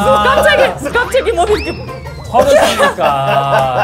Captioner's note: failed to hold back his laughter